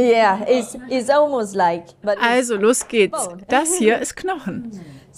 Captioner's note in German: englisch